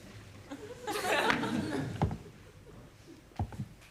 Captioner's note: audience laughs